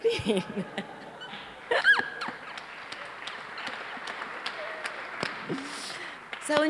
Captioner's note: laughter/Applause